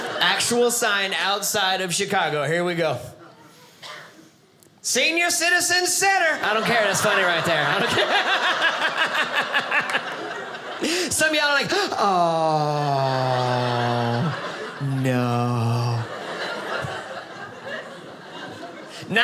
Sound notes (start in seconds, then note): 8.6 audience laughing; 15.8 audience laughing